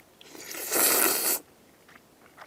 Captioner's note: slurrrrrp~